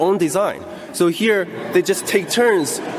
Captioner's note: audience laughter